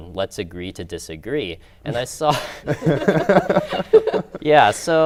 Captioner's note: laughter